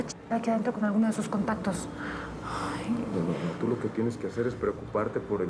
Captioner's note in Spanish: suspiro